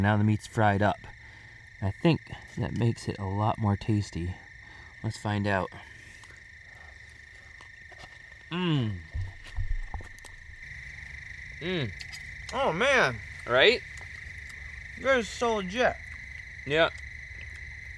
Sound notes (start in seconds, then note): 8.5 moans happily